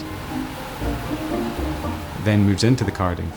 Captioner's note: machine whirring